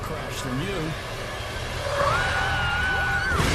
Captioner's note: grido pneumatici